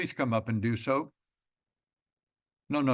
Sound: pause

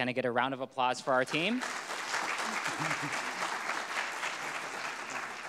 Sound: audience clapping

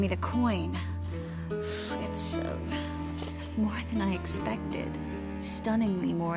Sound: exhale

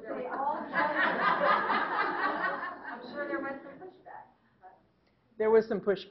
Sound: laughing

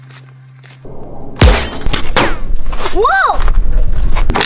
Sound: gunshot

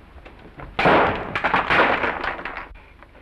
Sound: bulb explodes

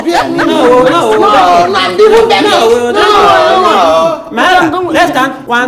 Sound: Mark Ella and Women leader arguing

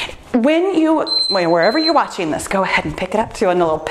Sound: timer beeps

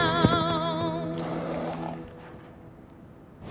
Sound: horse blows

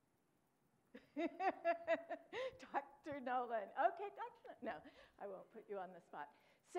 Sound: laughs

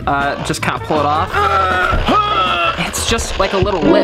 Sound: grunts

